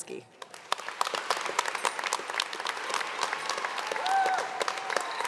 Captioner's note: audience applauding